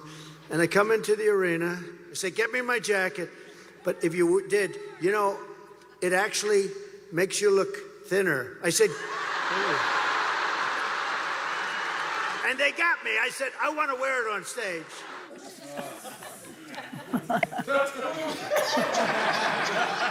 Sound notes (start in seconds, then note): 15.8 laughter and applause